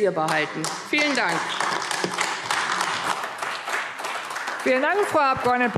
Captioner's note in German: Beifall AfD